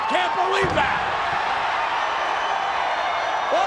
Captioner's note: blows thudding; body thudding